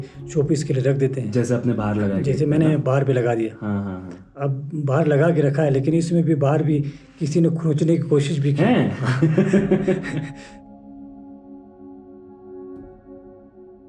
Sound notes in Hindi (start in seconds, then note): 8.9 हंसी